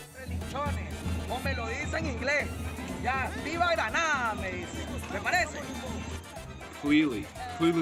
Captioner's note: speaking Spanish